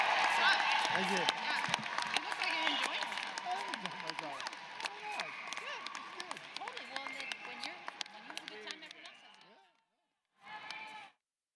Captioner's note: applause